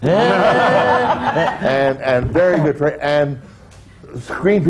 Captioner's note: laughter